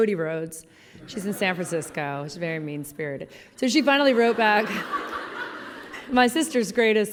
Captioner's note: laughing; laughing